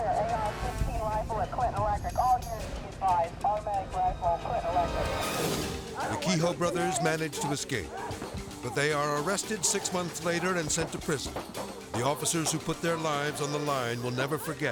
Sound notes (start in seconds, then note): 0.0 suspenseful music; 5.5 edgy dramatic music; 11.5 shots firing